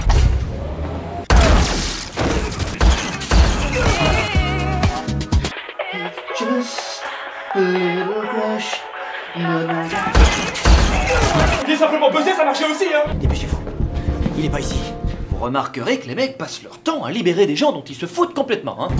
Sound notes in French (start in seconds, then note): 1.2 tirs; 5.5 chante; 10.0 tirs